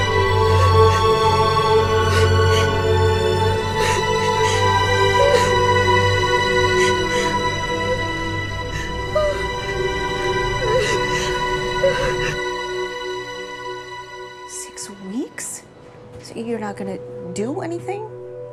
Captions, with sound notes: [sobbing] Six weeks? You're not going to do anything?